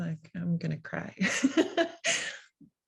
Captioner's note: laugh